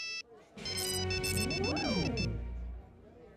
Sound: beeping

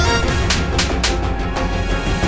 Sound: slapping noise; tense music

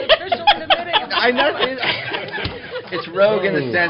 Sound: laughter

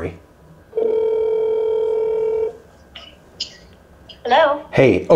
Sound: phone ringing

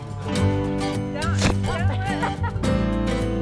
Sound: lively music; fruit thumps; observer laughs; lively music

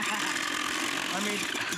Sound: laughter

